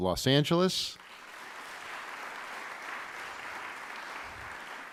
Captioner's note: applause